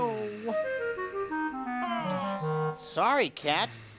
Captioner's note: Terrence continues squawking